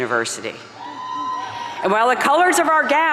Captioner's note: audience cheering